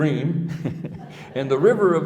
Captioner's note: laughing